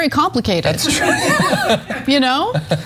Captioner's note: laugh